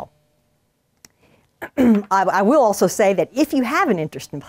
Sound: cough

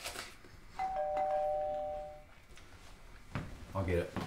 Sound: doorbell ringing

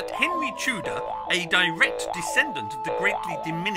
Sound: trampoline boings

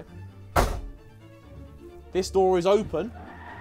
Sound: metal door slams

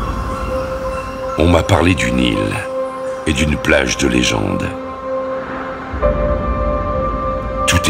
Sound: official frenche voice

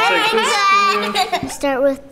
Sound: laughing

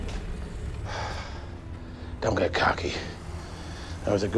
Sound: sighs

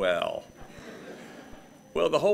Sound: gathering laughing

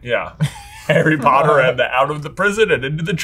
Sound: laughs

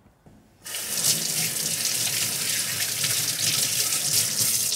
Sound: water running

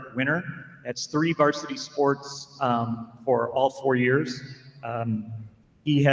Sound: none

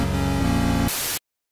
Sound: Static

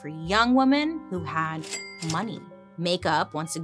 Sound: cash register dings

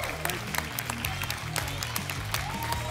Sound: applause and cheering

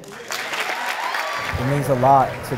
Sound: cheering and clapping

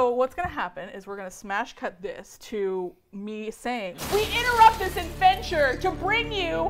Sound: glass shatters

